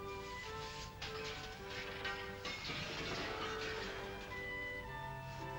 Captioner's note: soft upbeat music; sounds of sweeping; soft upbeat music; clattering sounds; soft upbeat music